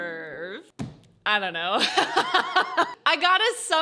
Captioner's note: bangs table; laughs